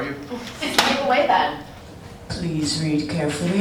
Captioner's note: slaps